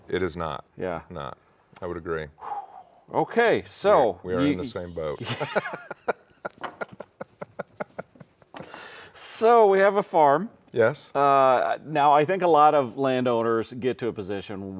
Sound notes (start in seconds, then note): 5.1 laughs